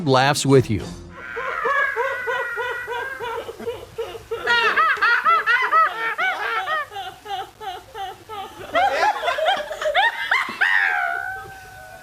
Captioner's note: women laughing hysterically in a peculiar way